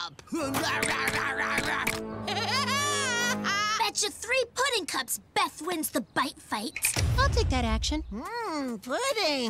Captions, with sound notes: (Chomping) HAHAHAHHAHHA! - Betcha three pudding cups Beth wins the bite fight. - I'll take that action. - Mmmm, pudding.